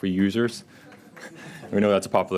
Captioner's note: audience clapping